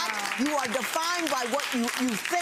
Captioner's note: audience applauds